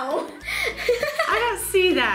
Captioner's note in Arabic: يضحك